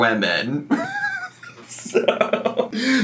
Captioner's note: laughs